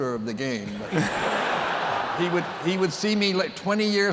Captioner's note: laughter